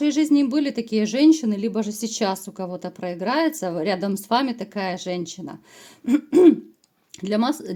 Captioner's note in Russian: откашливается